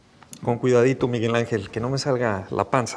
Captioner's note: Spanish